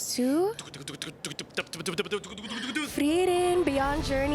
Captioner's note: is mimicking drum roll sounds